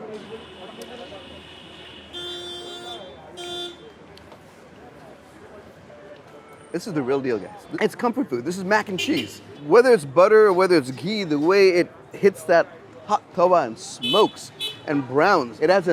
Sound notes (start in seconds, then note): 2.2 horn honking